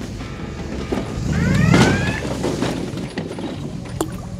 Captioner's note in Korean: 우당탕탕